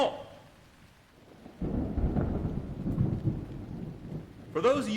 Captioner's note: thunder rumbling